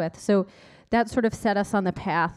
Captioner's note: none